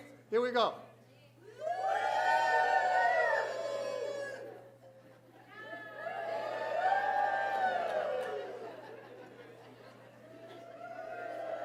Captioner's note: shouts from the audience